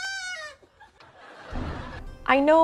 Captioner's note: laughing